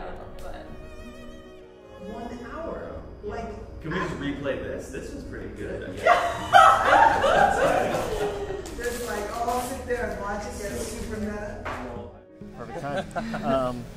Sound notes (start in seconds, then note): 5.9 participants laughing